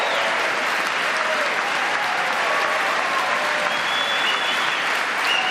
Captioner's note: applause